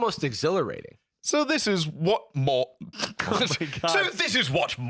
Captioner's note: laughs